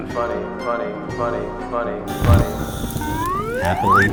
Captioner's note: echoing